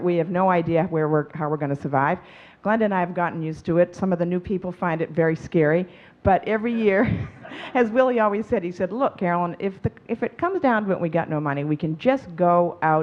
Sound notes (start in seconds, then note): 7.1 chuckling